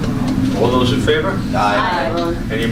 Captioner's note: A chorus of ayes